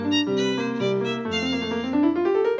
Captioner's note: none